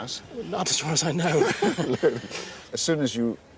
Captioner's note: laughs